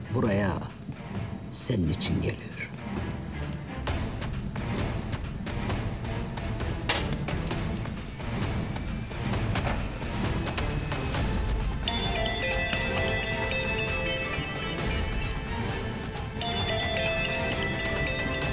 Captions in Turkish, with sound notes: Buraya senin için geliyor. (Telefon çalıyor)